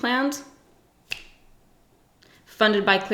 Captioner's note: snaps fingers